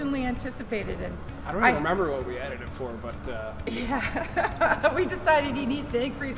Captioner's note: laughing